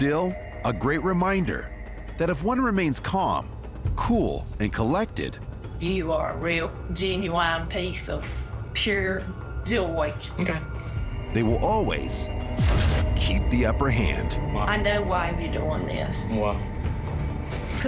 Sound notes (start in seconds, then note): none